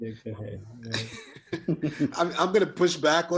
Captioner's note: all giggle